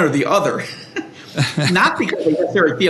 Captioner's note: laughter